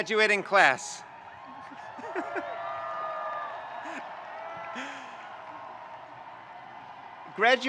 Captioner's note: audience cheering; laughs